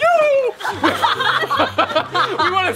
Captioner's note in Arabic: الجميع يضحك